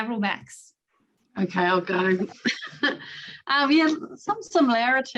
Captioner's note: chuckles